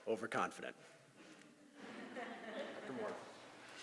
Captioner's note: laugh